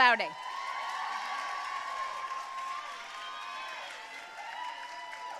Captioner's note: audience cheering and applauding